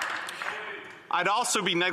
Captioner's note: speaking French